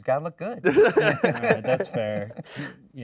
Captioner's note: all laughing